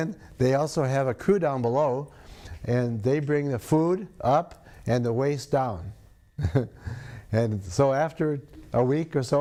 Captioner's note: laughs